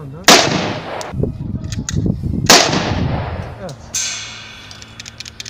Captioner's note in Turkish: silah sesleri